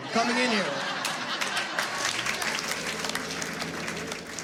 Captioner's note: laughter